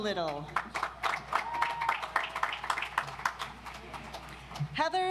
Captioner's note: audience applauds